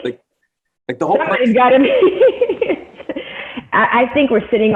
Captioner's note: laughs